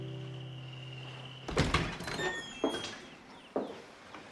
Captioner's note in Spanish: Ruido al abrir la puerta